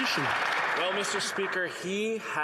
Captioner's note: some Applause